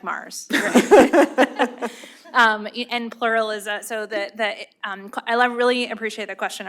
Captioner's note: laughter